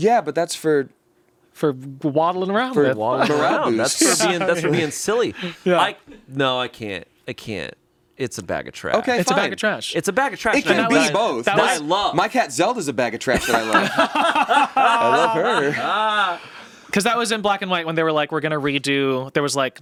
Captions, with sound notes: - Yeah. But that's for... - For waddling around with. - For waddling around. That's for being silly. No, I can't. I can't. It's a bag of trash. - Okay, fine. - It's a bag of trash. - It's a bag of trash. - It can be both. My cat Zelda is a bag of trash that I love. (everyone laughs) I love her. - 'Cause that was in Black and White when they were like, we're gonna redo,